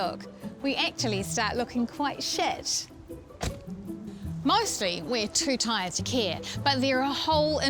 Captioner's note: car door slams